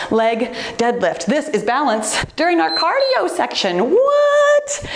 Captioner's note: timer beeps